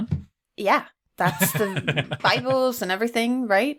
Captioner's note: laughs